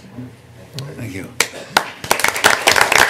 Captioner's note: applause